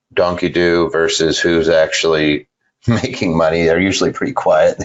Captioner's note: laughing